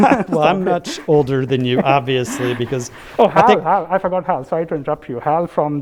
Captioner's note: laugh